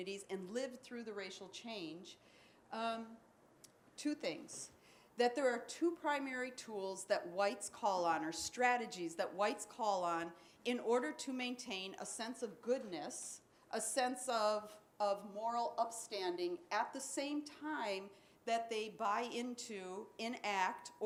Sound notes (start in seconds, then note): none